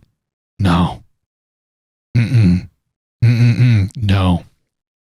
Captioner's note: disagreeing noises